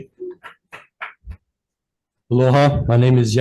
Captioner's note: constituent clapping